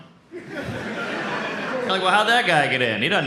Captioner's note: audience laughs